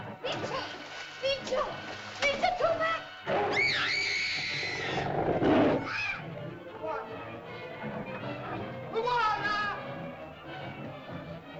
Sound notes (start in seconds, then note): 0.1 water splashes; 3.5 girl shrieks; 4.6 dinosaur growls; 8.0 suspenseful music